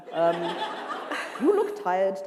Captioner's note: laughter